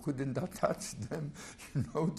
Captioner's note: laughs